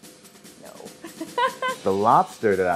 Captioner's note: laughs